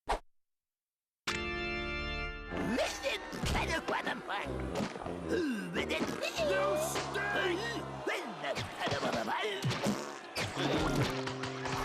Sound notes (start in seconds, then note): 2.5 jabbering